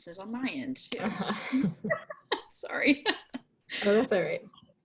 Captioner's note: laugh